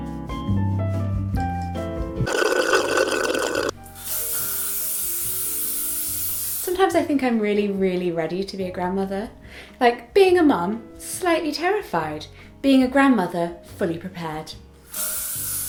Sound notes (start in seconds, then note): 2.2 slurps